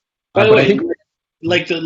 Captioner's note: both stammer